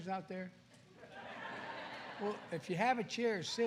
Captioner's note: laughter